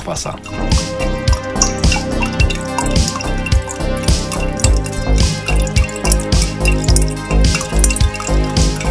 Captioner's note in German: Wasser gluckert in den Abfluss; Synthwave Music